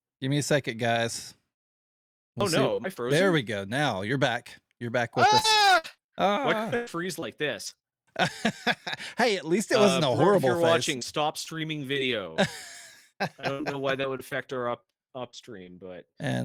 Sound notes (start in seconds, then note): 5.2 screaming; 8.2 laughing; 13.2 laughing